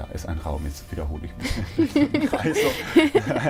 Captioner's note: laughing